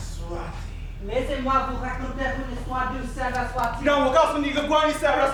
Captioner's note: speaking in a foreign language